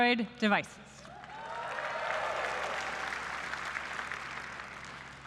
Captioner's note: applause